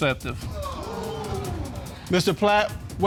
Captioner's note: audience gasps